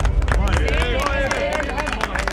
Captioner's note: applause